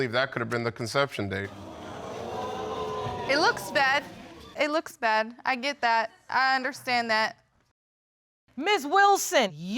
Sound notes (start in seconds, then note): 1.5 audience exclaiming